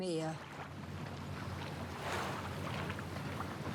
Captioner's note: waves crashing